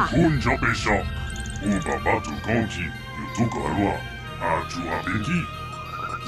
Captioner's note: this droid is speaking a language you do not recognize